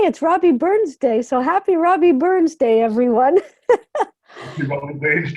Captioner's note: chuckles